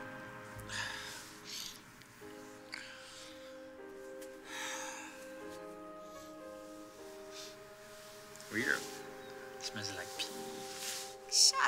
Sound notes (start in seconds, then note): 4.5 Mathieu sighs